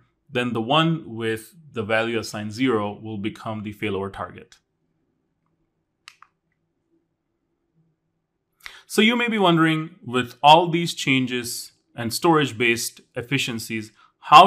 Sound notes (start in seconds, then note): 6.0 remote clicking